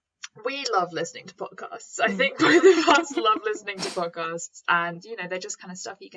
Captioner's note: both laugh